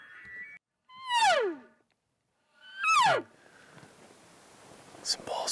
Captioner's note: elk call bugling